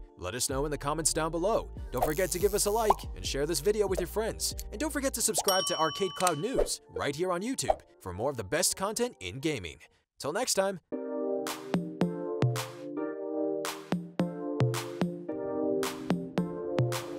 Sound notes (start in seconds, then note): 2.7 bubble popping; 5.4 bell ringing; 11.0 upbeat music